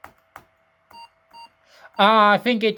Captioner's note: laptop beeps